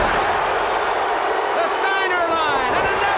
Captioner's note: audience cheers